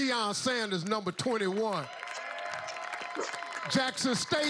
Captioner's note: applause